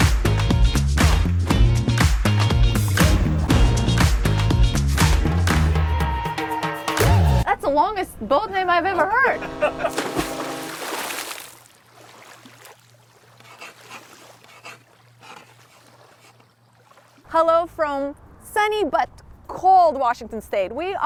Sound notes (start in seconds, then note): 9.0 group laughing; 10.7 water splashes; 12.1 water lapping; 14.4 graphics scratching